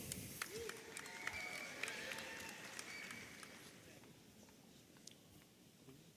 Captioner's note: audience applauding and cheering